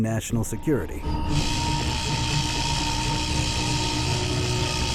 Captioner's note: laser buzzing